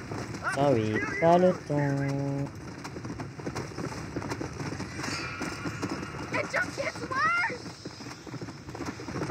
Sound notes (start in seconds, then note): 3.1 galloping horse; 6.1 creepy music